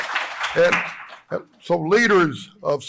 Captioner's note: applause